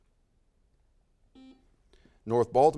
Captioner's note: buzzer sounds